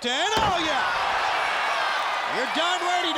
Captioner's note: audience cheers